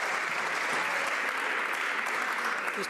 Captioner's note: some Applause